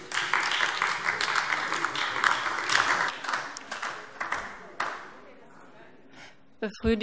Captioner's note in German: Beifall AfD